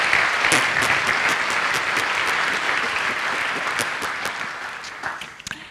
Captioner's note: makes farting noises with mouth